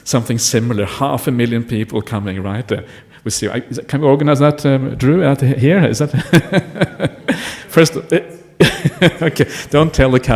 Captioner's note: laughing